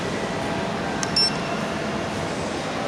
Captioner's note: beep